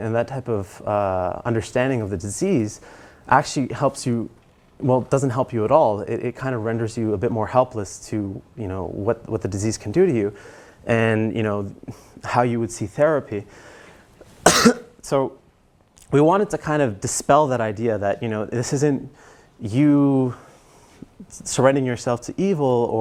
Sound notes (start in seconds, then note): 14.4 cough